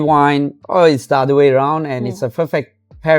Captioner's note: laughs